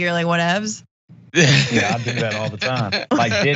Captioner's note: laugh